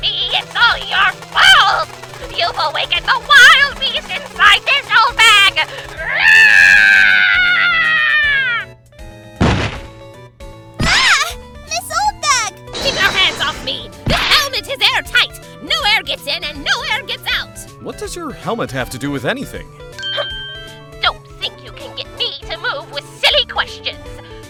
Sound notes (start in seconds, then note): 9.3 thud!